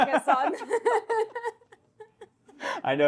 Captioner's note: both laugh